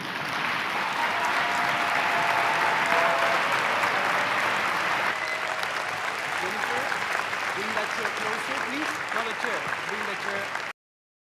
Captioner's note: applause